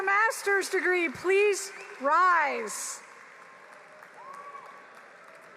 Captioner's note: applause